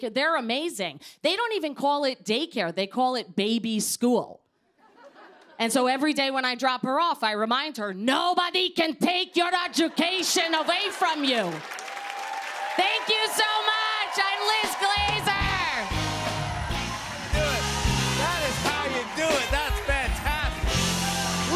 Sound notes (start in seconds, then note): 15.8 cheers and applause